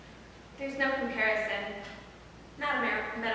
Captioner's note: none